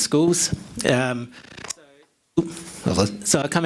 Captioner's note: crackling drowns out the speaker